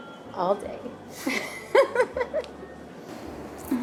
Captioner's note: laughs